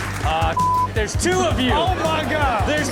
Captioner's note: beep